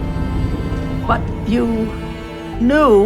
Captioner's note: voiceover